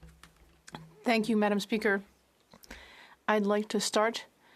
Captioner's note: speaking French